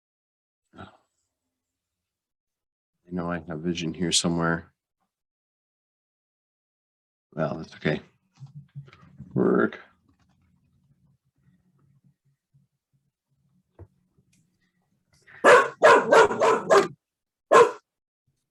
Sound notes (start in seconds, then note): 15.4 dog barking